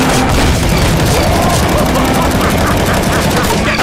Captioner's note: laughs in scottish